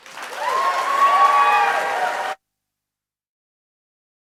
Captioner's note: cheering and applause